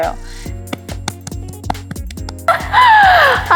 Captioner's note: clapping happily22